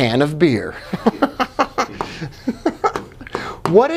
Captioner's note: laughing